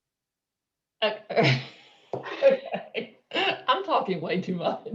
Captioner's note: chuckling